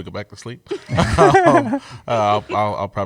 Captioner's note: laughter